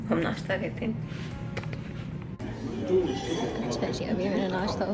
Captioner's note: crowd chattering